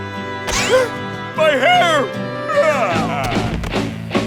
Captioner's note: sobs; gasps